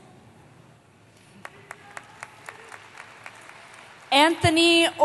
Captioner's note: applause